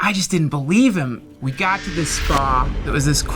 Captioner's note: zap